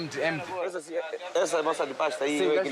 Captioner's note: Portuguese spoken audio